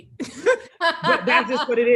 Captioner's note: laughs